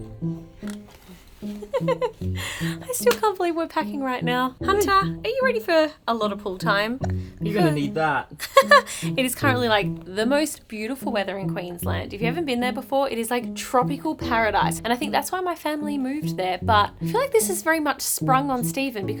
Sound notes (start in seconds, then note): 0.0 upbeat music; 1.4 laughing; 8.3 laughing